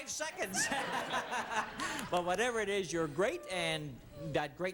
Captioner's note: laughing